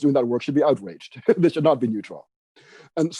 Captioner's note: laughing